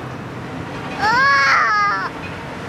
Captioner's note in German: Kind schreit